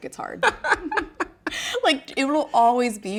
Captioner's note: laughs